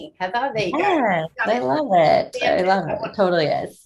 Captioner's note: murmuring